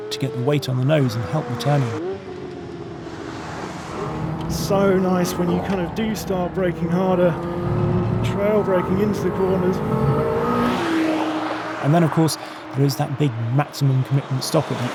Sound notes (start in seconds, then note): 10.7 car zooming